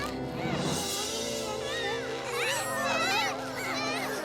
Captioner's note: children grunting; tense music